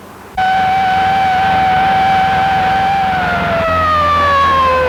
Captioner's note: siren blaring